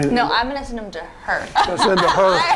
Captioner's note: laughing